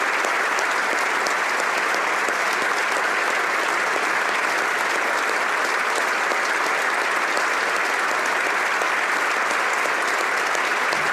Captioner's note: applause